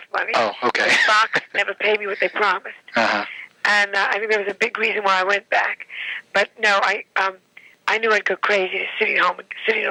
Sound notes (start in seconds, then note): 0.8 laughing